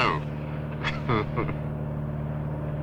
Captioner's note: ustinov chuckles